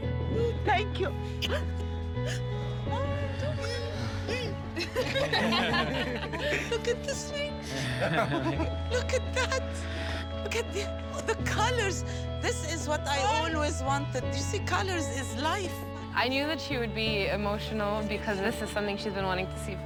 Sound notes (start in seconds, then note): 2.2 sobbing; 4.7 laughter